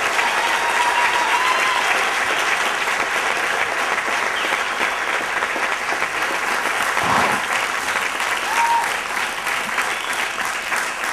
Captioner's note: applause